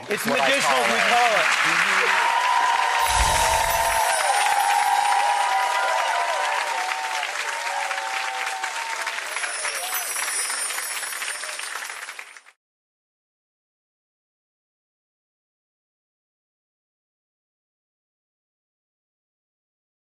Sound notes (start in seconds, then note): 1.4 audience applauds; 2.3 audience cheers